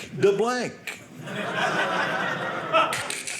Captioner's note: audience laughing